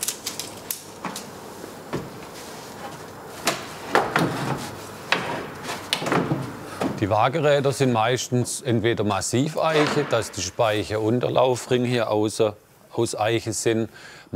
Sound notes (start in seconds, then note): 4.4 rumble